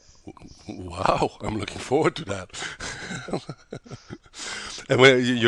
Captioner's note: laughs